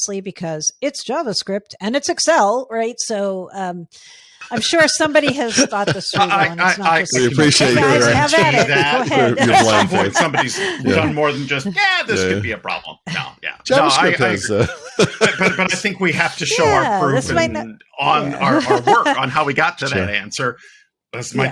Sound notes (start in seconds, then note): 4.5 laughing; 9.2 laughing; 13.6 laughing